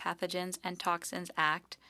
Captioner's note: speaking French